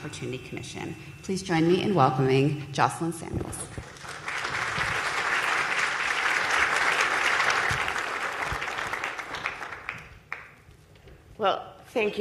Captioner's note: applause